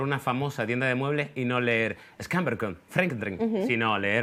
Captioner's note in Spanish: habla en sueco